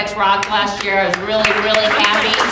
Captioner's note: audience applauding